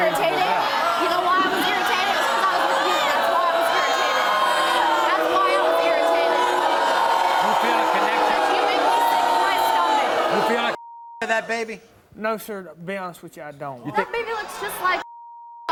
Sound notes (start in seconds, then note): 6.4 audience screaming